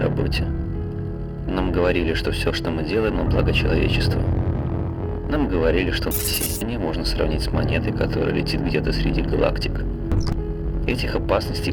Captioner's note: static